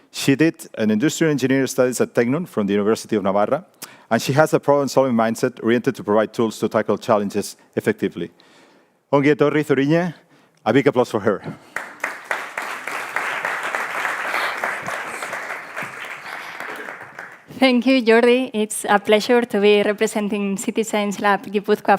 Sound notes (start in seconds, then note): 9.4 speaks in foreign language; 11.6 audience applauding